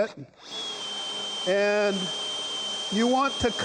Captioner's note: drill whirring